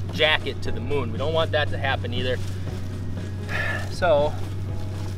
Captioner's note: sighs